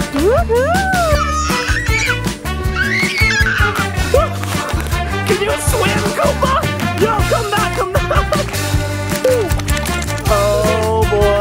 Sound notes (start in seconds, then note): 2.7 kid screaming